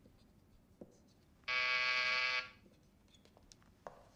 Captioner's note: buzzer buzzes